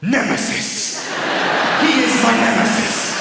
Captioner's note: laughter